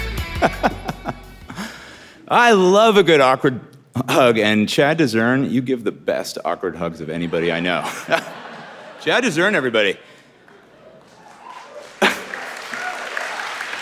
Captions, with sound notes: (laughing) - I love a good awkward hug and Chad Desern you give the best awkward hugs than anybody I know. (audience laughing) Chad Desern everybody. (laughing)